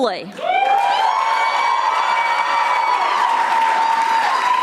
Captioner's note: audience applauding